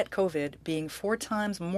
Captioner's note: speaking French